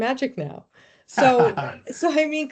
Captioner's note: laughing; chuckling